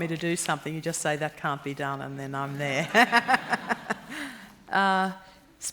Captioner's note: laughter